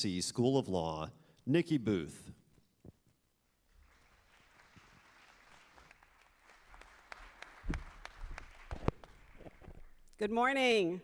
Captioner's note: applause